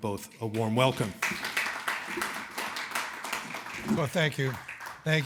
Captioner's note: audience applauding